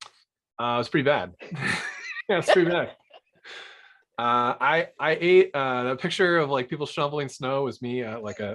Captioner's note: laughter